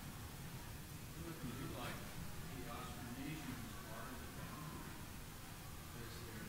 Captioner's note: man speaking off-microphone